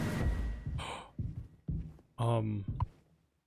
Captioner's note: gasps